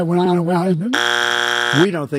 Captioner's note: "wrong answer" buzzer